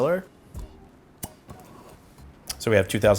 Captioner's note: cork pops